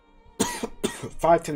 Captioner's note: coughs